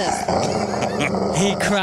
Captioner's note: growling